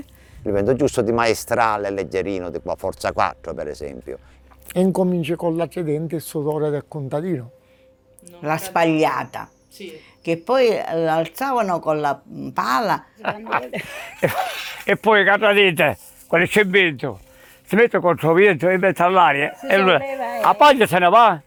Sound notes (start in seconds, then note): 13.2 laughing